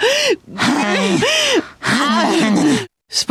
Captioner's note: sighing; panting